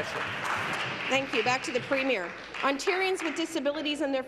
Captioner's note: applause